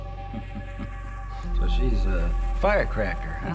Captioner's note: chuckles